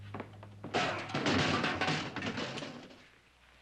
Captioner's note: clattering